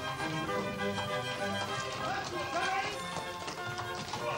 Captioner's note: man shouts